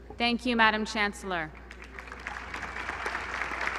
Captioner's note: applause